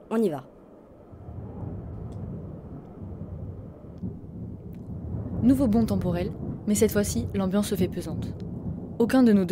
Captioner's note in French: bruit de tonnerre